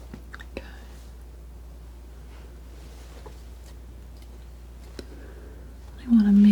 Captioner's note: scratching